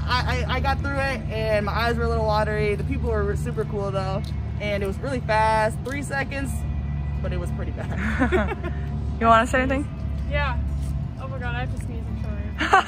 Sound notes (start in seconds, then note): 7.9 laugh